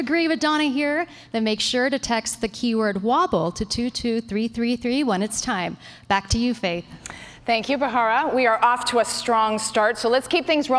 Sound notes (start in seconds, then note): none